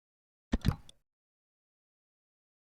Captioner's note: click